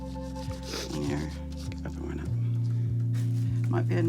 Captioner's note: coughs; sniffs